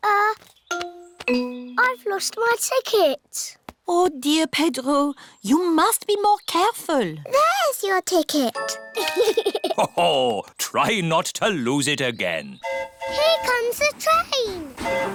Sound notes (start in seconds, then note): 8.9 giggles; 12.6 train horn hooting